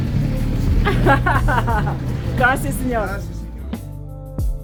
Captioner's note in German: Lacht